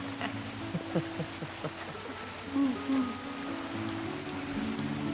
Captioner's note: chuckles